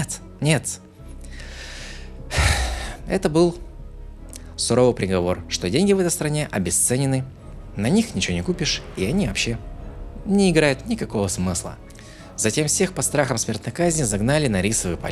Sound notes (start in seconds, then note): 0.6 sigh